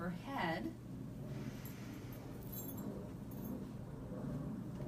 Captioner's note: inhaling deeply